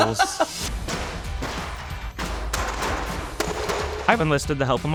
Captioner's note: laughs; boards clattering